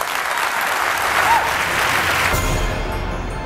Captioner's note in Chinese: 掌聲